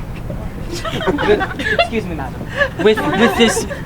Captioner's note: audience laughing